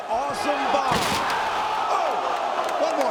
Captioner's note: table crashing